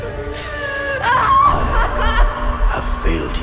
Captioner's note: Mia screaming